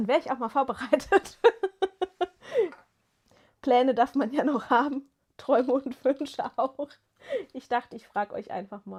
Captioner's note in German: gelächter